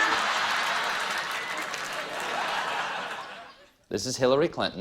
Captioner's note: applause; laughter